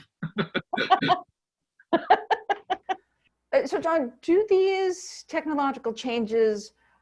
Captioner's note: laughter